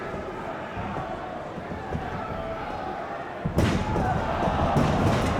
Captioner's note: audience chattering